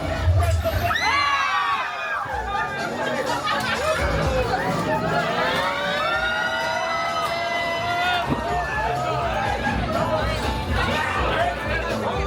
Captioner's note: guests screaming, laughing and cheering